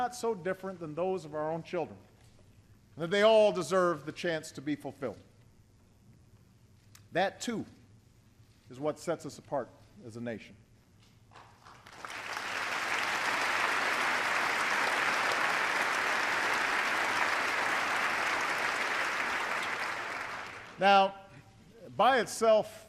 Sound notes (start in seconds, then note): 15.5 applause